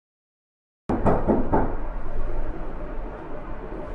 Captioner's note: knocking